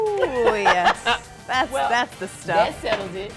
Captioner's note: laughs